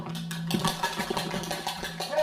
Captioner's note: bowl rattling